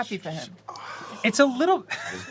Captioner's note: sighs